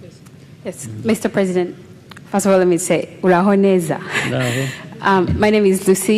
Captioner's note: non-english speech